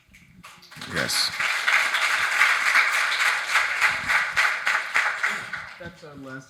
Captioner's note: audience applauding